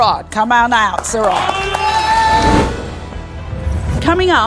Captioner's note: audience cheers and applauds